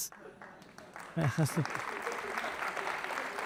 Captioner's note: applause